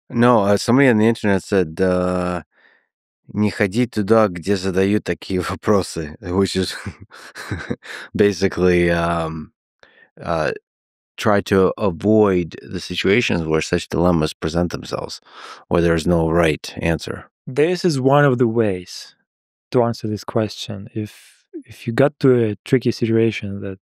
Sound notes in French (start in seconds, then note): 3.5 parle russe